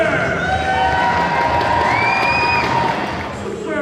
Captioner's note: crowd cheers